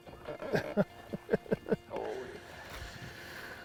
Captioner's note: chuckling